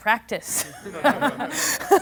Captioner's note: laughing